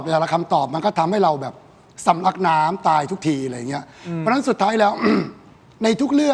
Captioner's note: clears throat